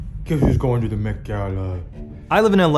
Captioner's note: in silly voice